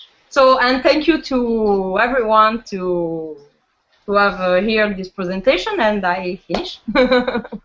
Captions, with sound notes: So -- and thank you to everyone who have heard this Presentation. And I am finished. [laughs]